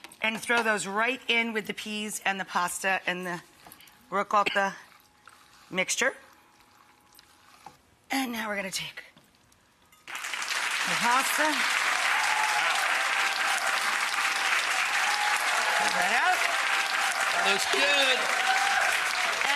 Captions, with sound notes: and throw those right in with the peas and the pasta, and the ricotta mixture. And now we're gonna take (audience clapping) the pasta. (audience cheering) Looks all right. Looks good!